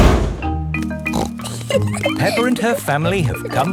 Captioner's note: snorts and giggles